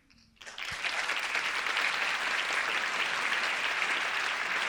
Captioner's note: audience applauding